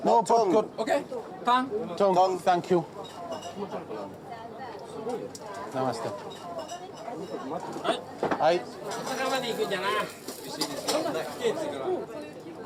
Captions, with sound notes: -Oh! -Okay. -Tung. -Thank you. [speaking Japanese]